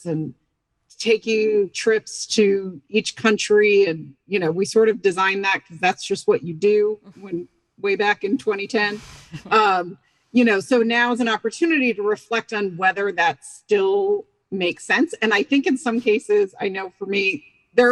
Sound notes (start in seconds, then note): 9.4 chuckling